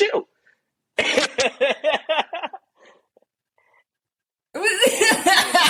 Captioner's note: background laughter